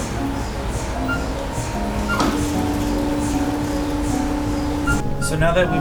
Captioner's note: machine beeping; machine whirring